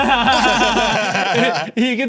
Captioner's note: everyone laughs